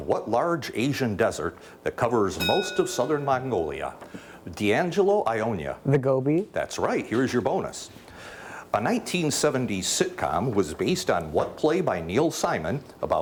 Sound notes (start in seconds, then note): 2.4 bell dings